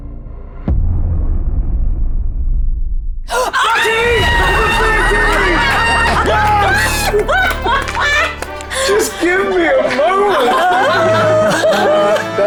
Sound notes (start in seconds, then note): 6.0 groaning; 6.5 die rattling; 7.0 squealing; 7.8 players laughing; 8.3 palms clapping